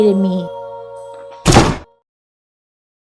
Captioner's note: chop!